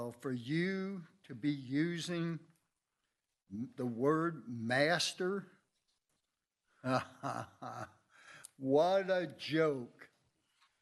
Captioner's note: laughs